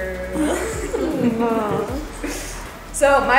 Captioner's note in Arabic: الضيوف يضحكون